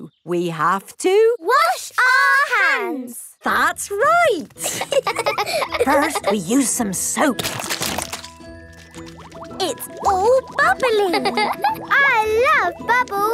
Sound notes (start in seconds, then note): 4.6 laughing; 6.9 squirt! squirt!